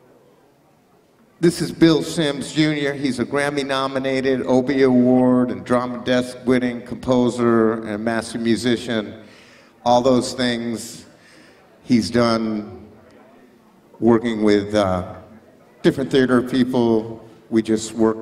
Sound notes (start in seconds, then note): none